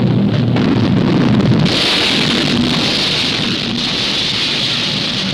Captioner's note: explosions booming